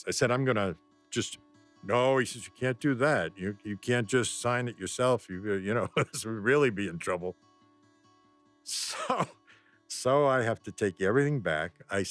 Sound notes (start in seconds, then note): 5.7 laughs